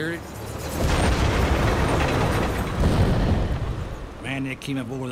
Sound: tanks rumbling; cannon shots exploding

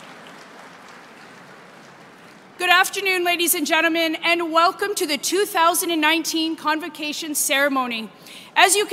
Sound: applause

